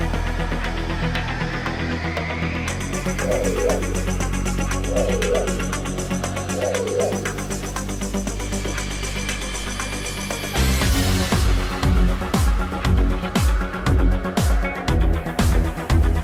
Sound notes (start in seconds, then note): 3.3 whirring sound; 8.6 suspenseful music